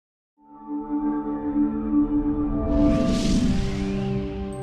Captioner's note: air whooshing